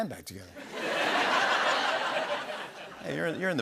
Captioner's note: laughter